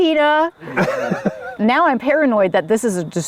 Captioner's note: group laughs